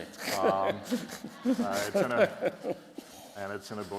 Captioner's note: laughter